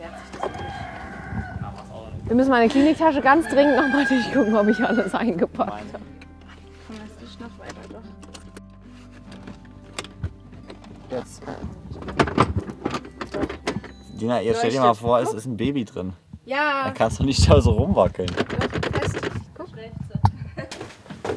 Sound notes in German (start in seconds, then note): 12.0 Klacken; 19.2 Gesprächsfetzen, Klacken